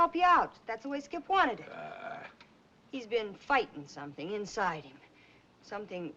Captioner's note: scoffs